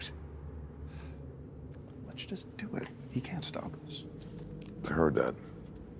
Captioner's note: sighs